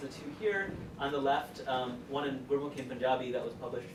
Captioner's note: speaks foreign language